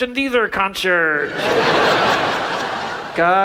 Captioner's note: audience laughs